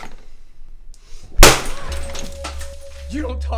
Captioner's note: record shatters